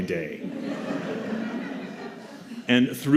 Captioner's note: laughter